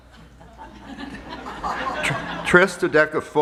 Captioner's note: laughter